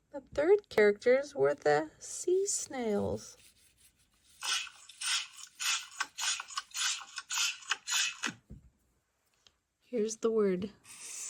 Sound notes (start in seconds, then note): 4.4 sea snails clatter